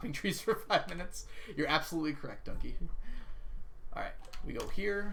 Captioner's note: laughs